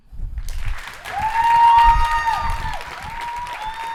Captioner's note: applause, cheering